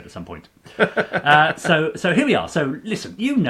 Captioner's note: laughing